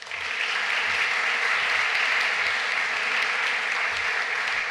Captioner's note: applause